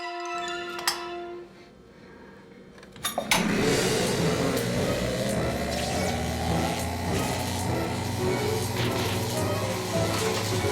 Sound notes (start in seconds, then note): 3.3 electric buzzing